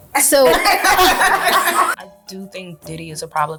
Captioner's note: laughing